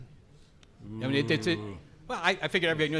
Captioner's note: intrigued vocalizing